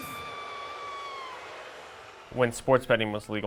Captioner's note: booing; yelling